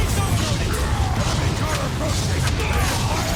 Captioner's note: explosions